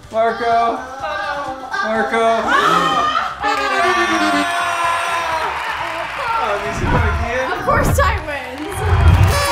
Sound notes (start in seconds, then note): 2.4 screams